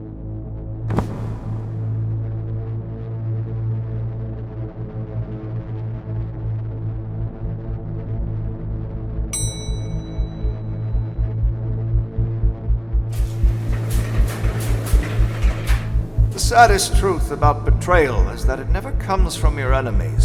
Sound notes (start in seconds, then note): 9.3 bell dinging; 13.0 elevator doors rumbling; 14.6 solemn music